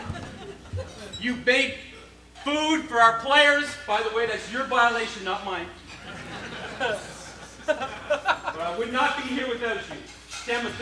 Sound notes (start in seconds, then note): 5.8 crowd laughs